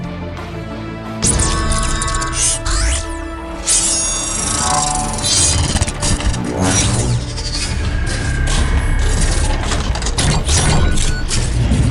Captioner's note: mechanical Sound Effects